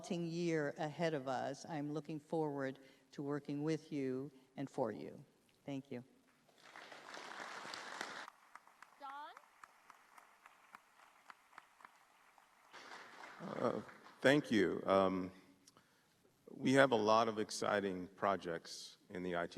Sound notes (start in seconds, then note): 10.1 applause